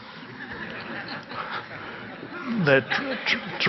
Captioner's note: audience laugh